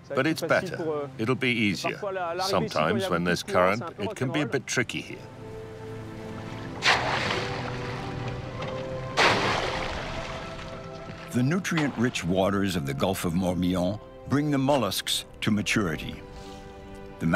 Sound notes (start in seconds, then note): 5.6 water splashing